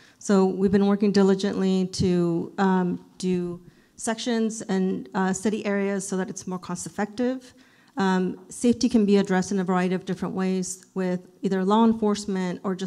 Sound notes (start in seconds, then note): none